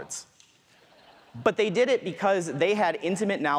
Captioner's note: audience laughs